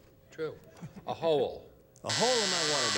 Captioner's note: buzzer